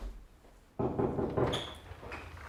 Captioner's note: knock